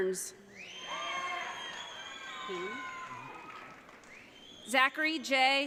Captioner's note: audience cheering